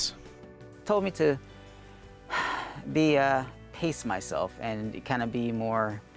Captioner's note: exhales